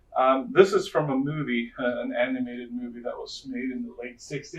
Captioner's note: none